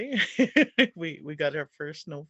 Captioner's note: laugh